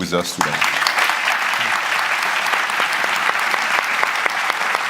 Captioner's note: applause